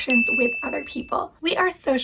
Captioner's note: bell dings